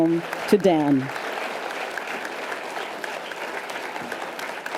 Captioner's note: audience applause